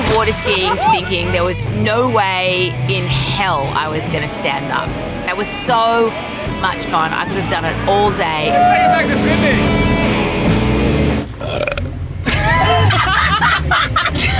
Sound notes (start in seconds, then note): 9.2 motorboat engine roaring; 11.8 burps; 12.2 laughing